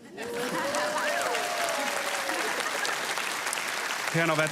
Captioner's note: applause